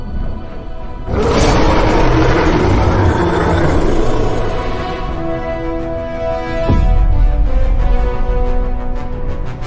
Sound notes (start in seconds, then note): 1.0 dinosaur roaring; 5.1 dramatic orchestral music continues